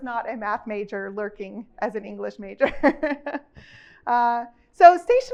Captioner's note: chuckles